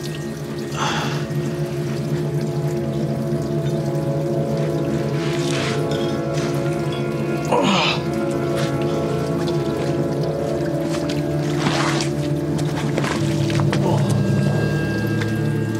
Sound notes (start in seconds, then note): 0.7 sighs; 7.4 groans; 13.7 groans